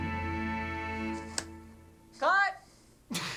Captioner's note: hand slapping; both laughing